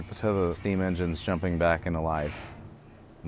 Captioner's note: key ring clinking